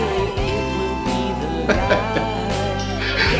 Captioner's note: laughing